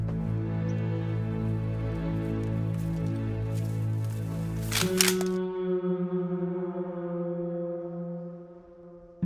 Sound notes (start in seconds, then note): 4.1 gun clicks